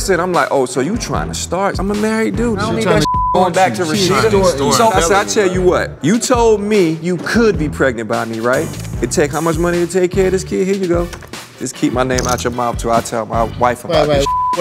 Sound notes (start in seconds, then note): 2.8 beep; 3.3 friends chattering